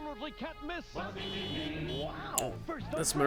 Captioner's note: car horn honking